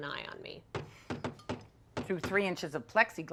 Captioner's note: loud knocking